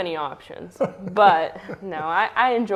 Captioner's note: laughs